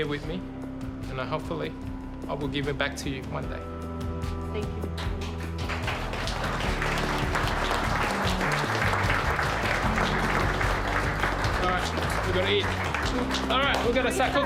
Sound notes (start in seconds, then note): 4.8 applause